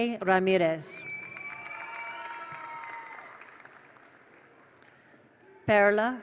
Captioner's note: attendees cheer; attendees applaud